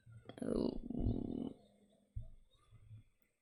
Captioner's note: nervous sounds